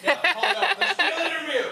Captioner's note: people chuckling